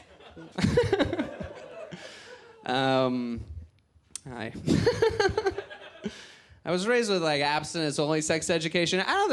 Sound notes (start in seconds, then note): 0.0 giggles